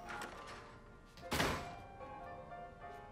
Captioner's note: door slams